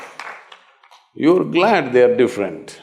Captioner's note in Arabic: تصفيق